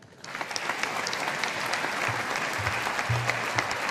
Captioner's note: audience applauding